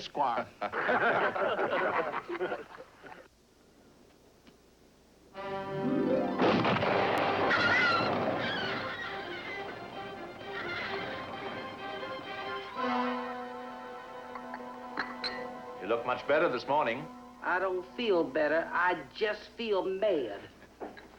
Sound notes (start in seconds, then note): 0.6 all Laughing; 7.4 squawking